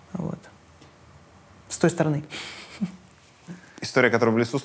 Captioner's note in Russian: смеётся